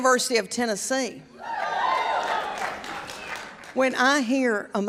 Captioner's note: audience cheers